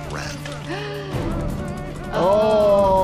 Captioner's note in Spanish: jadea